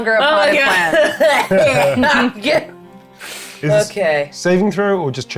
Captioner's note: chuckling